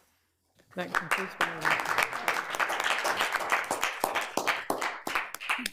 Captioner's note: all applauding